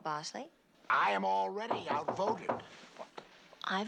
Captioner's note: knocking